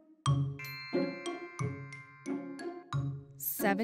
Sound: animated music; magical chime

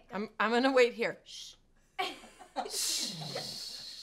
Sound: laughs

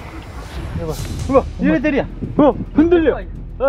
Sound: the tower shakes in the wind

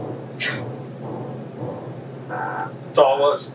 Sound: scoffs

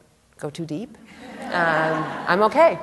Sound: laughter

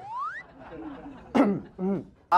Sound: clear throat

